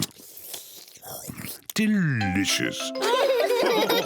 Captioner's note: slurps; all laughing